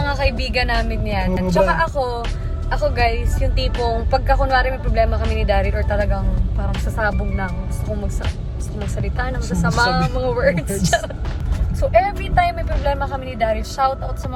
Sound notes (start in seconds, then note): 9.2 with expletives